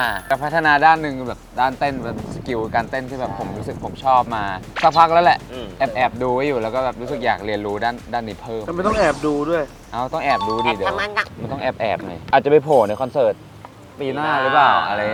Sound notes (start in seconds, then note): 11.1 cute voice